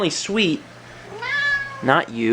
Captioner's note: Sagan meows